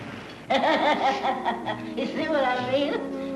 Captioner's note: woman laughs